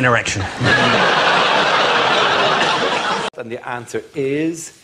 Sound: audience laughs

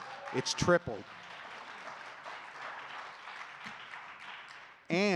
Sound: audience clapping

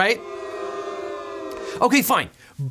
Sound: people booing

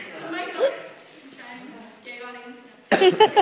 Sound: audience laughs

